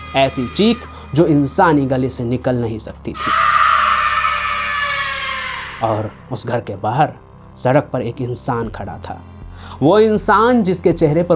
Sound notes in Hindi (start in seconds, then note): 8.5 नाक से की जाने वाली आवाज़